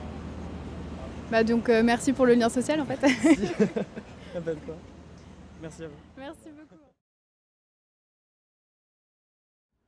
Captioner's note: laughter